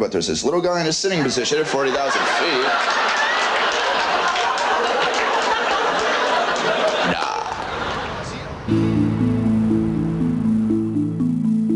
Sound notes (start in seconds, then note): 1.1 laughter